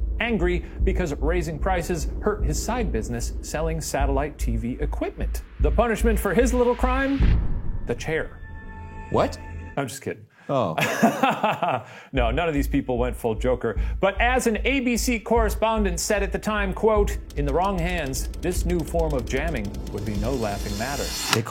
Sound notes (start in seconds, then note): 7.3 suspenseful music; 10.6 laughs